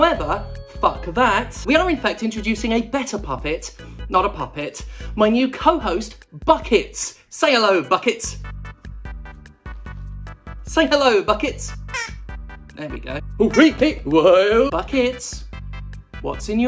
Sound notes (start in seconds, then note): 11.9 squawk